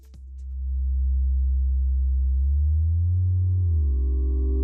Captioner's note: mechanical droning